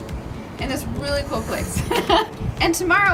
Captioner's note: laughs